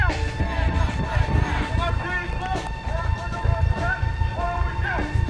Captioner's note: protesting continues